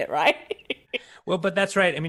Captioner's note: laughs